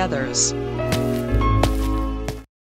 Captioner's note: footsteps